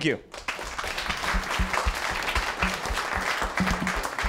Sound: applause

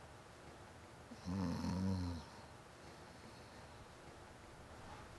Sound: Bryan snoring

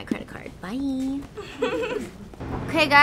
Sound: cashier chuckles

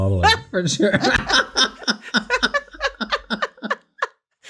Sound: both laughs

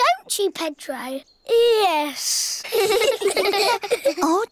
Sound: all giggle

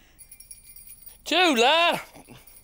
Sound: bell faintly jingles

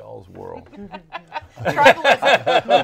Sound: laughing

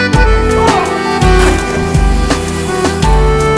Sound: fall in water

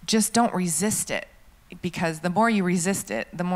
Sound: none

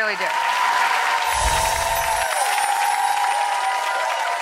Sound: audience applauds

